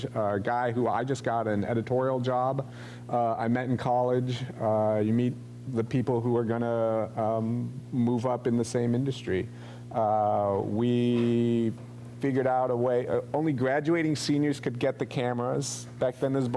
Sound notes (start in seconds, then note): none